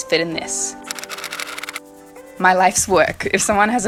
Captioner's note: typewriter style clicking